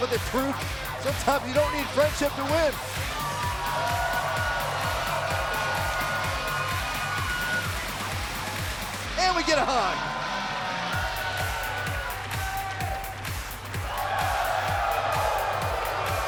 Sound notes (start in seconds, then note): 5.1 crowd cheering; 11.7 crowd cheering